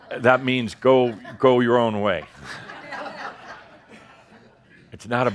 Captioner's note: some laughter; more chuckles as he gestures again